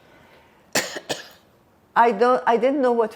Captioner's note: coughing